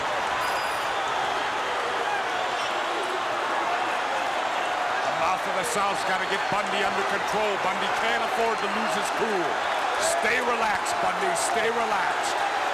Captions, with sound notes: (crowd clamoring) The Mouth of the South's gotta get Bundy under control, Bundy can't afford to lose his cool. Stay relaxed, Bundy, stay relaxed.